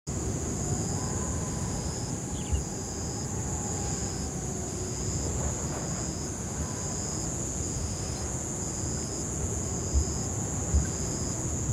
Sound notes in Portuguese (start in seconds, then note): 0.1 Pássaros; 0.1 Ruídos de mata